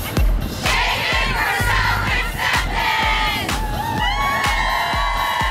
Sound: cheers

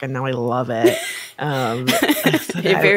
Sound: chuckling

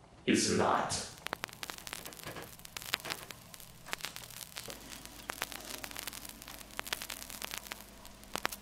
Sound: none

